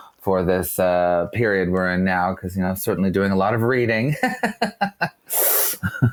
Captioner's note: laughs